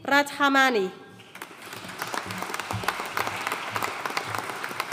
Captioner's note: audience applauding